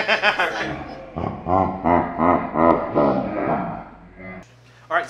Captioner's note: laughs; slow motion laughter